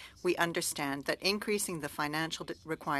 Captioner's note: speaking French